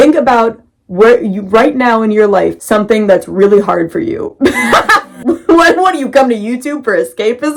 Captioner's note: bursts out laughing